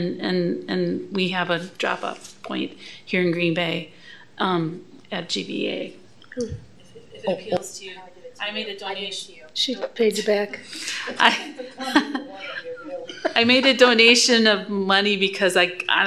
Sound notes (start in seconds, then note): 10.9 laughter